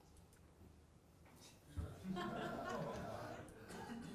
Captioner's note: audience laughing